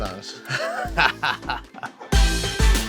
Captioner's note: laughing